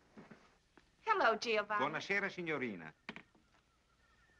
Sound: Italian spoken audio

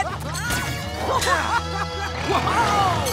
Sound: laughing

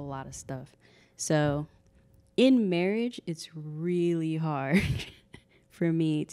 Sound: laughing

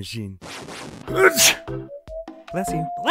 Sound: sneezes

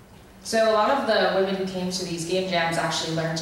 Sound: voiceover

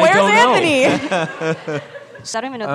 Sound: laughter

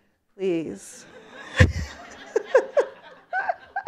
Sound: laughter

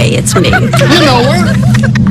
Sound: friends laughing

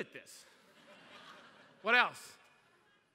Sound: laughter

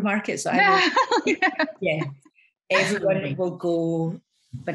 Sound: everyone laughs

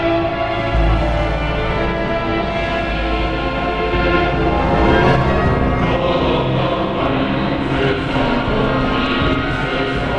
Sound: tripod sounds their horn in glory of the emperor

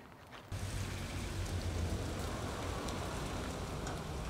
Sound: truck hums

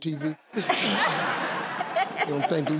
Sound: laughing

